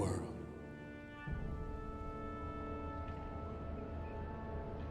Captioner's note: siren blaring